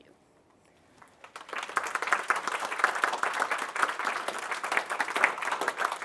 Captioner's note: applause